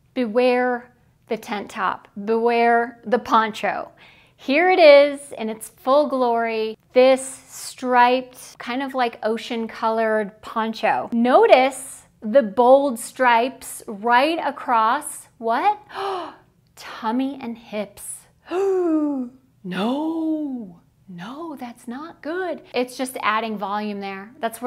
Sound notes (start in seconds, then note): 18.6 gasping